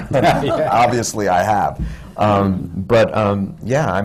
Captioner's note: laughter